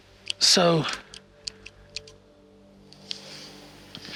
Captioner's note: flashlight clicking